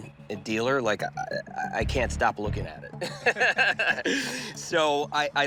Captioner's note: laughs